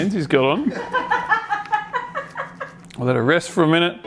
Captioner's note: laughs